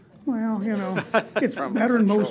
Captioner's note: laugh